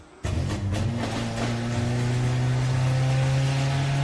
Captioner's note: engine droning